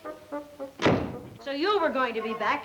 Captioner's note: door thuds